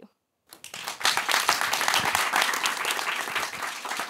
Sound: applause

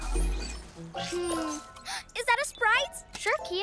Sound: gasps

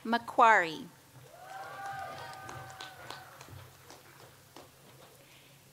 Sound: audience applauds

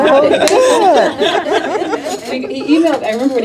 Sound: all laughing

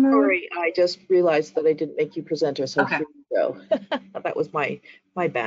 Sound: chuckles

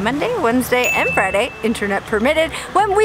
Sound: bell dings

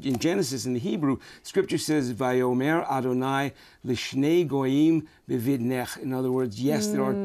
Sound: speaking hebrew

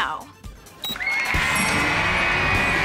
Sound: cheering

